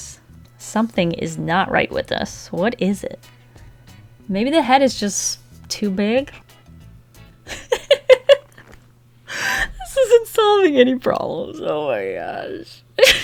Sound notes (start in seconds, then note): 7.5 sudden uncontrollable laughter